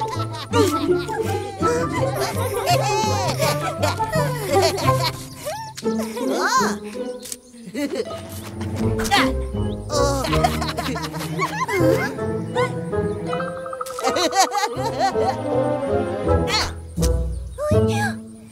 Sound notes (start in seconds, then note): 7.6 giggling; 9.8 laughing; 13.9 giggling again